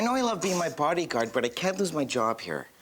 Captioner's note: Eddie sniffles